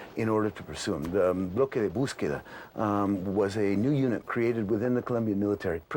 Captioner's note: speaking in non-English